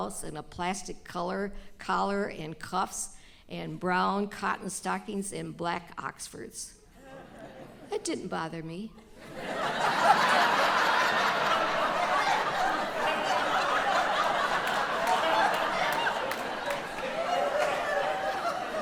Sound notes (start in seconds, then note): 9.1 audience laughter